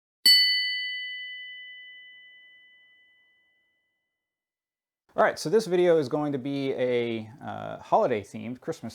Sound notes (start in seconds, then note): 0.2 metallic ching